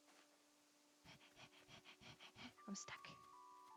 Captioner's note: dramatic panting